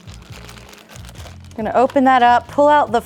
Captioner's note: plastic rustling